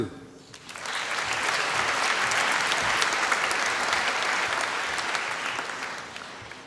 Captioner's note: applause